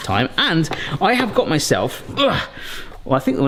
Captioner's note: groans